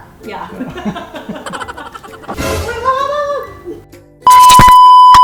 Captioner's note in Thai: เสียงหัวเราะ